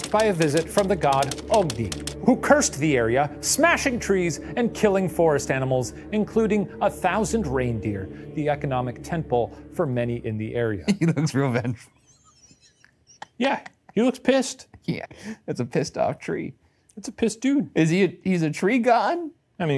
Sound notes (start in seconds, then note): 10.8 laughs